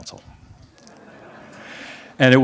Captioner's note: laughs